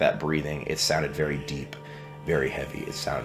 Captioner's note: intense breathing